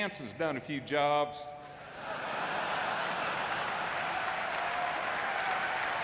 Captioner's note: audience laughing and clapping